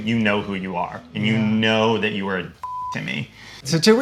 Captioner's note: beep